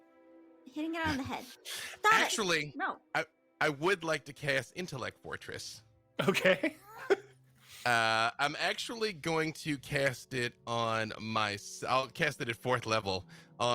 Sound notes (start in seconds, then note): 6.2 laughs